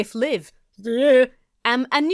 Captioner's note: speaks gibberish